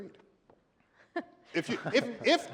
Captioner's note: laughs